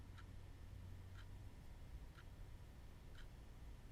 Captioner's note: clock ticking